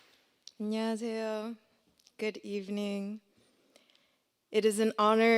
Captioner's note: speaking korean